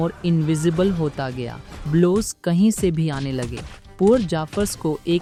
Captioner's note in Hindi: घूंसे मारने की आवाज़